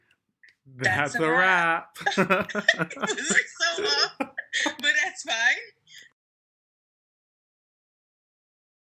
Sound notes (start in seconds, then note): 2.0 both laugh; 5.4 laughing